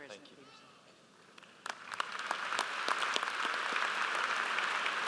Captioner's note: audience applauds